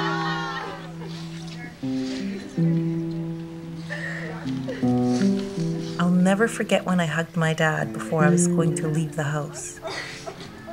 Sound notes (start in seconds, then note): 0.7 sniffling and sobbing